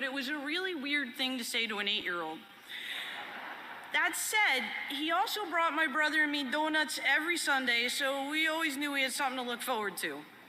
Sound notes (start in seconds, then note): 2.9 laughter